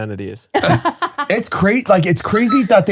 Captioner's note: laughing